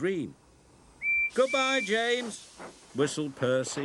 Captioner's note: whistle blows